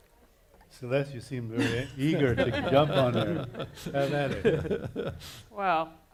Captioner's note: laughing